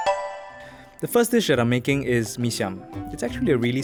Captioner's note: voiceover